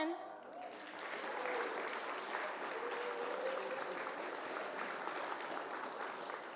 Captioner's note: audience applauds and cheers